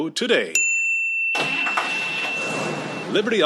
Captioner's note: car engine revving